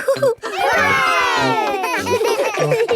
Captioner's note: chuckles; laughing